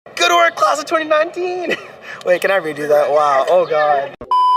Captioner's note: chuckles